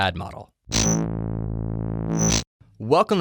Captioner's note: logo buzzes